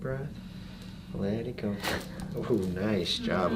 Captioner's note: crack